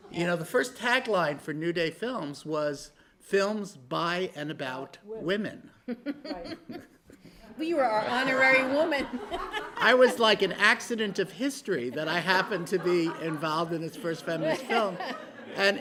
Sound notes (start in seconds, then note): 5.8 chuckling; 8.1 laughter